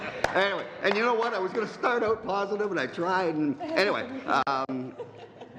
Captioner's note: laughter